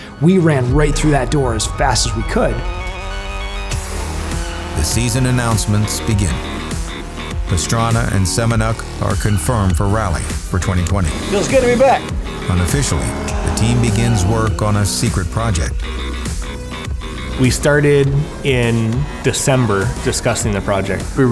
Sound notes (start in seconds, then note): 3.3 car engine roaring